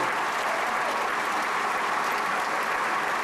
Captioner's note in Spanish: aplausos